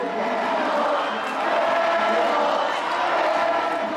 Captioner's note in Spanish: Vítores